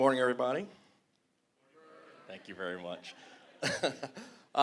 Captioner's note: laughing